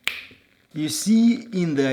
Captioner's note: fingers snapping